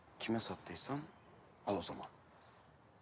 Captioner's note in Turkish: none